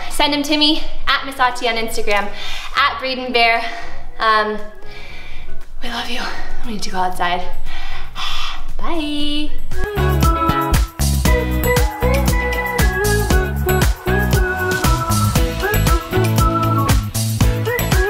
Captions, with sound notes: So send them to me @missauti on Instagram, @braydenbear. We love you. We need to go outside. (gasps) Bye! (upbeat music)